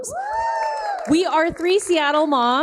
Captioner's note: all applauding and cheering